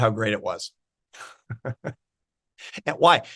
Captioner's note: laughs